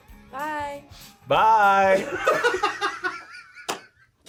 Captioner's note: laughs